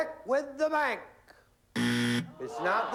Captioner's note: buzzer